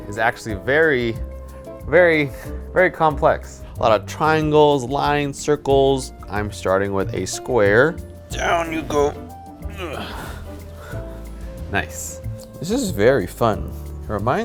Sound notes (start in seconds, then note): 9.6 groans